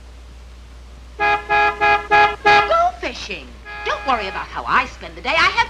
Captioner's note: car horn honking